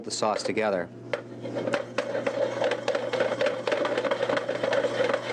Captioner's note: pan rattling